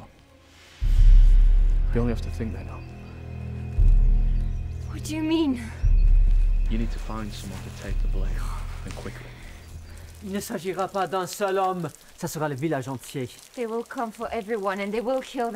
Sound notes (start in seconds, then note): 9.6 Anatole speaking in French